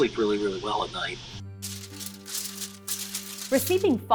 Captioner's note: paper crumpling